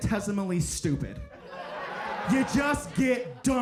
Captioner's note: audience laughing